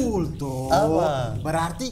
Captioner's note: laughing